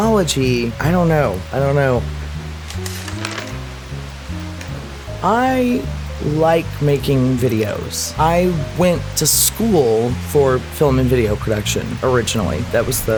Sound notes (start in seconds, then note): 2.6 flips pages